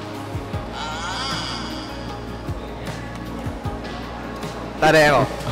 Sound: both of them sleeping

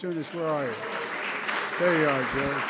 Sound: applause

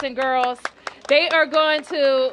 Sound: applause

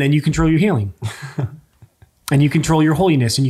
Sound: chuckles

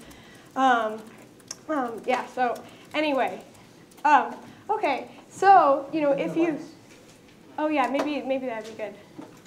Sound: lights adjust

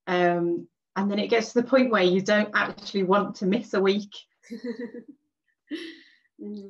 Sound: laughs

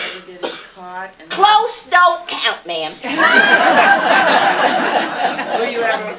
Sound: laughter

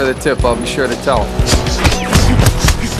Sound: labored breathing

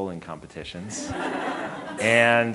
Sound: audience laughing

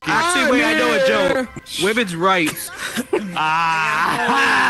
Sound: child laughing

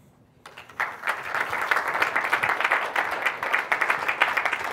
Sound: applause

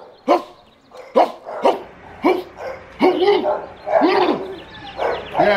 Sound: barking, dog barking back

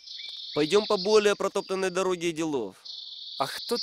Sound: speaks only Russian

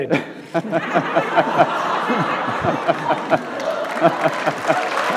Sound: audience laughs

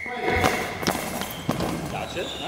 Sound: sound of ball with bells in it

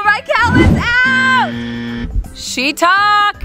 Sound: buzzing

